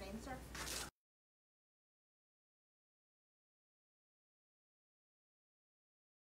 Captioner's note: no audio